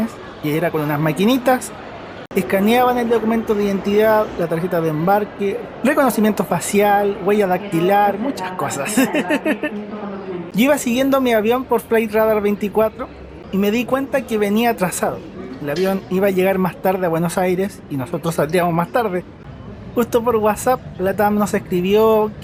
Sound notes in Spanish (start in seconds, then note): 8.9 risas